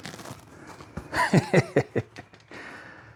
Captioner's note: laughs